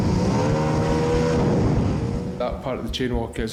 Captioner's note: boat engine revving